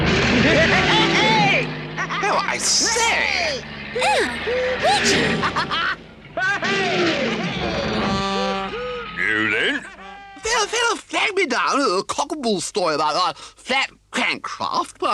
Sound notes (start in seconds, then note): 0.2 Toad laughs hysterically; 5.5 Toad laughs; 7.9 car horn honks